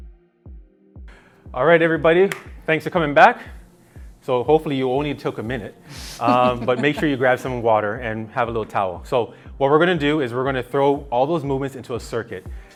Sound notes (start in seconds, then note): 6.0 laughing